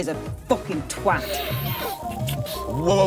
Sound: snorts substance

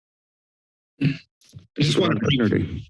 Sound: silence; clears throat

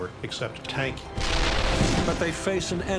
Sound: cannon shots exploding

